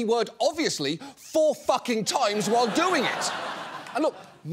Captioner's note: laughter